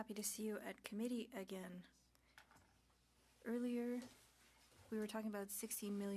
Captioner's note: speaking French